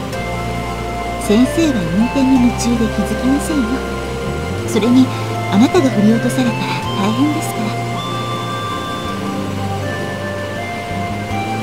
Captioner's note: rain